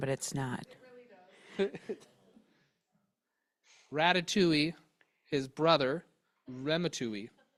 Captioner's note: chuckles